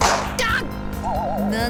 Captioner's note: panicked cry